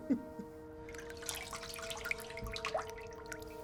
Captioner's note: water splashes